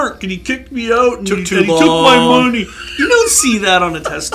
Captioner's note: laughs